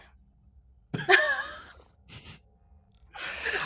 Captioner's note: all laugh